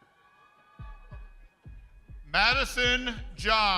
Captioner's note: crowd cheering